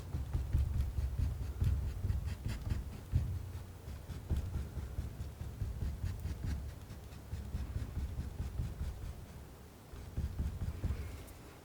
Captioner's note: scratching